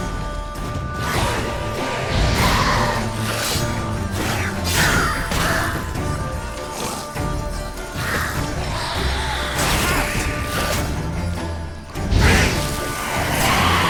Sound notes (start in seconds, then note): 1.0 drowners snarling; 10.2 cries out; 12.0 flames whoosh